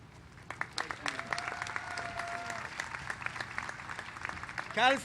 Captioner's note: applause